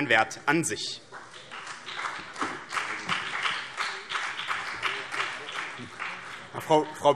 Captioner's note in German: Beifall BÜNDNIS 90/DIE GRÜNEN und vereinzelt CDU